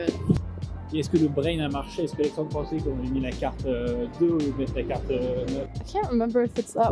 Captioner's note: french nerd speak